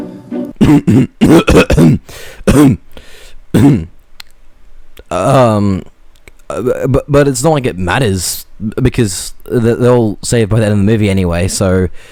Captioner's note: cough cough; cough